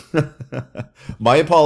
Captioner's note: instructor chuckling